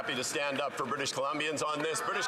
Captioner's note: some Applause